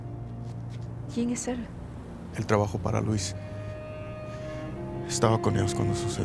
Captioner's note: both speaks in a foreign language